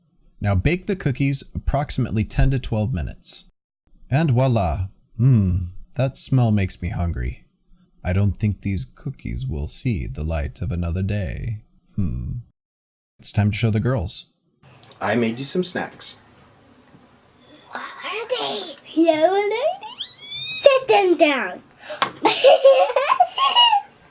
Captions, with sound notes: Now bake the cookies for approximately 10-12 minutes. And wala! MMMM...that smell makes me hungry. I don’t think these cookies will see the light of another day...mmm. It's time to show my girls. I made you some snacks. What are they? [Squeaks of excitement] Set them down! [Laughter]